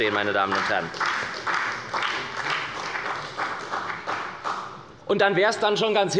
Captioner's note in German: Beifall bei der SPD